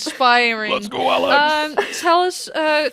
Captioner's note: chuckles